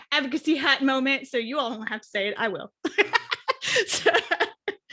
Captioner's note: chuckles